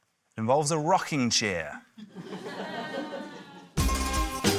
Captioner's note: laughter; curious music